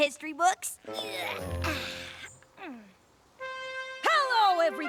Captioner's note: grunting continues